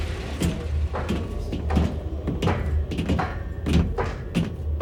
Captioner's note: footsteps marching